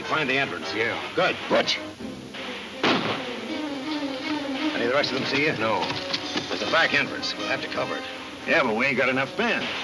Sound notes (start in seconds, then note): 2.8 gun firing